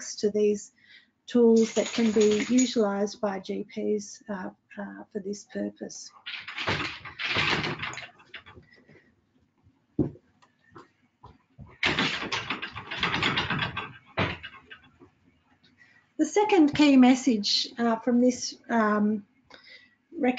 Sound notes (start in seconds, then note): 6.2 objects clattering